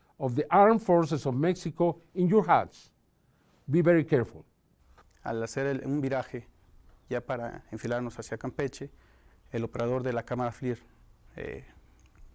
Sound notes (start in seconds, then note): 5.8 in vreemde taal